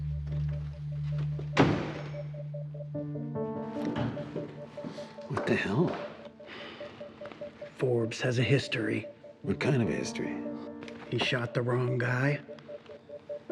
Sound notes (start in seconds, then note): 1.5 door slamming; 3.3 dramatic music